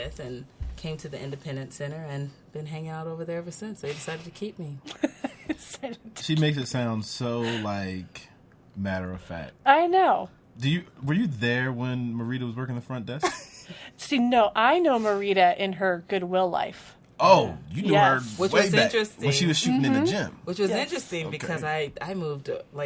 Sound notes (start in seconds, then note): 5.2 laughs